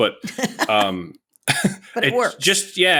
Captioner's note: laughs